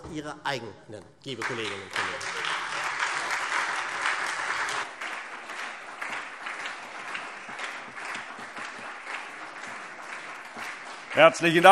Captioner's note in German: Beifall SPD und Freie Demokraten